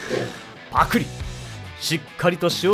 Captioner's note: gulp